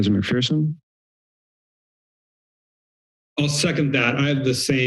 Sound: silence

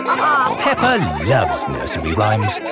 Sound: all laughing

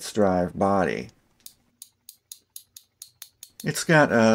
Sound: ratchet sounds

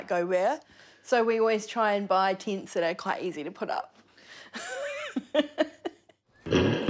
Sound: laughter

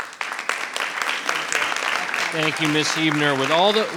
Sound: audience applauding generously

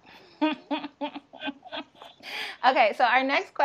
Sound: laughing

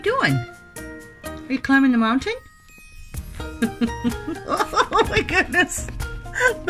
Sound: laughs

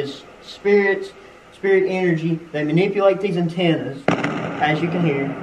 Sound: feedback

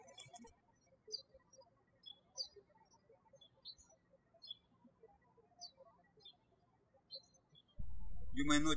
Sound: birds chirping

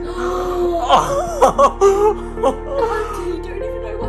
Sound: laughs softly

